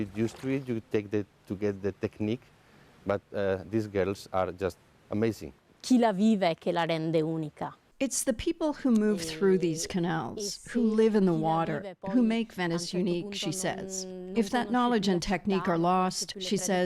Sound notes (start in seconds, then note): 10.0 speaking alternate language